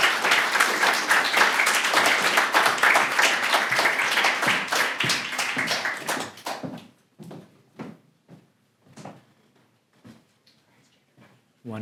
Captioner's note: applause